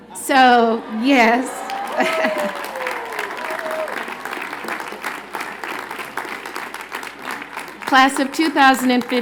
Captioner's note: cheers and Applause